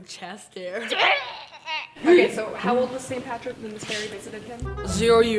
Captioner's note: retching